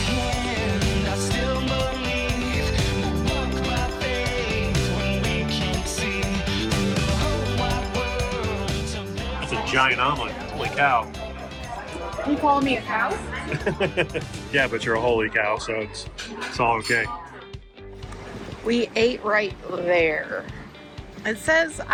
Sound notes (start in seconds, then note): 12.7 laughs